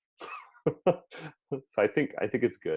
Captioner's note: laughs